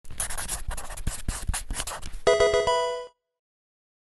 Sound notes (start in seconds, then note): 0.0 marker scratching; 2.2 electronic video game chime